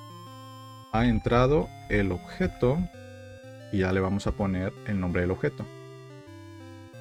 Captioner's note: speaking a foreign language